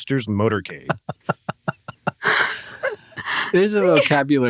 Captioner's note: laugh